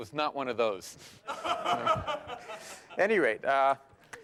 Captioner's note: laughter